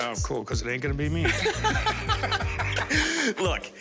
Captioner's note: laughter